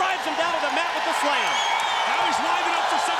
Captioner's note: crowd cheering